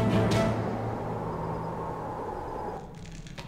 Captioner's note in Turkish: Rüzgâr sesi